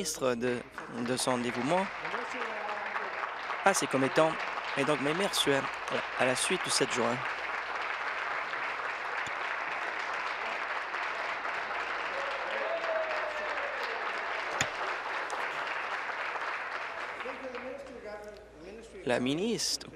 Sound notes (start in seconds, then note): 6.3 applause